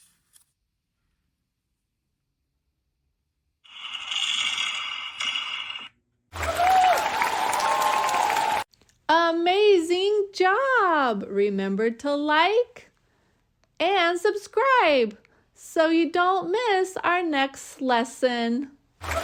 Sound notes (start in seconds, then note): 4.0 fireworks bang; 6.3 crowd cheers and applauds